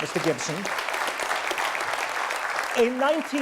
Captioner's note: audience applause